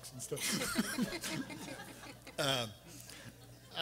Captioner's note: everyone laughing